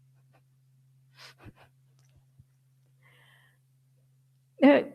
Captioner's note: laughs